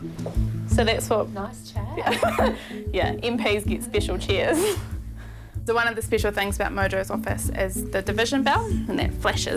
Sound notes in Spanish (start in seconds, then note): 2.0 risas